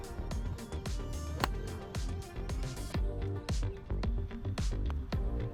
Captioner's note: man hits golf ball